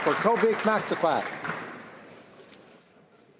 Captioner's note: applause